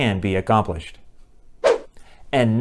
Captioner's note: swoosh